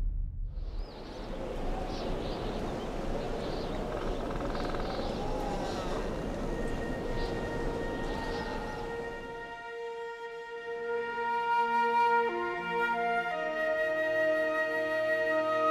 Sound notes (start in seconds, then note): 0.0 wind whistling; 0.6 birds chirping; 6.7 light music